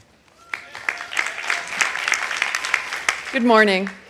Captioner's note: audience applauding